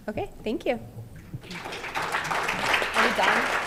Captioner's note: applause